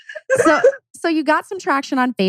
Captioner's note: laugh